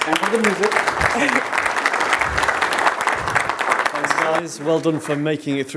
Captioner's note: audience applauds